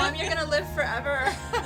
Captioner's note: laughter